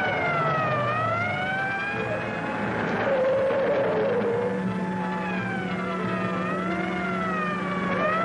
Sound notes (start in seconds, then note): 2.0 tires squeal; 7.8 police siren blaring; 7.8 tires squeal